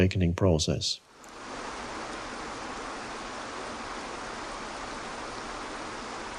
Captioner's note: water serenely crashing onto boulders